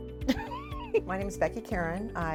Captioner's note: laughs